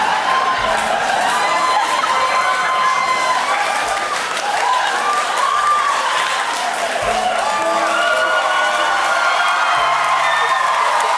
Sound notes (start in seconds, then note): 0.7 crowd cheering